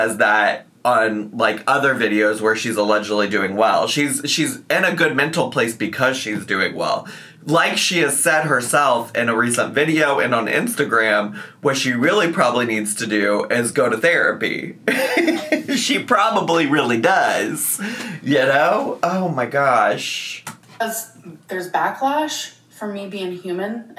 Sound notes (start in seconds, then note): 14.8 laughs